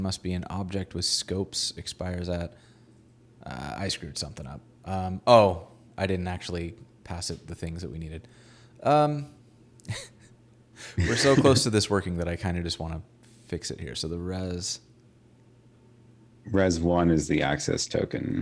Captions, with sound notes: with scopes, expires at, I screwed something up. Oh, I didn't actually pass the things that we needed. Um. (both laughing) We're so close to this working that I kinda just wanna fix it here, so the res-- - Res one is the access token.